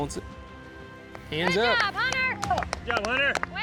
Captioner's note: all clapping